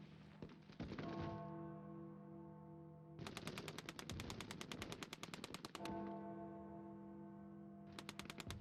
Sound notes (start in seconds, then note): 0.0 distant gunfire; 0.9 bell tolls; 0.9 distant gunfire